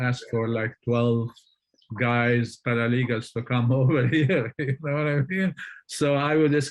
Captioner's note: laughs